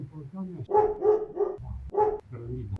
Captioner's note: cursing